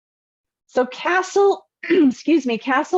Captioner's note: clears throat